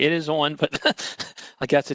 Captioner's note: laughter